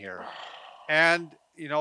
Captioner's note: exhales